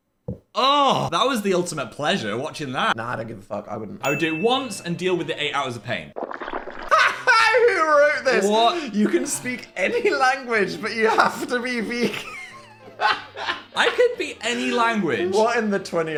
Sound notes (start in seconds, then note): 6.2 slime squishes; 11.8 Dan laughs